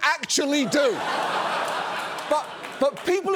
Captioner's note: studio audience laughs